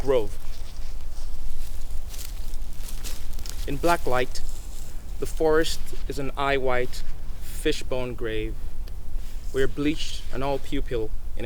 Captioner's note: leaves rustling